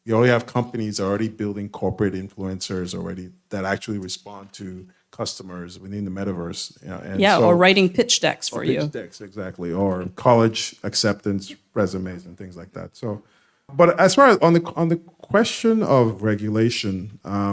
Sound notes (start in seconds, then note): 7.2 boo